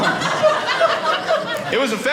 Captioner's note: audience laughing